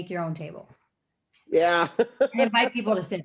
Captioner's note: Tenoch laughing